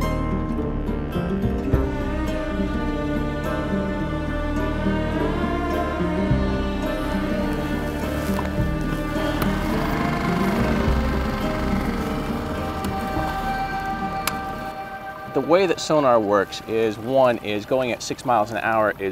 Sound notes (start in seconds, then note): 11.6 boat motor whirring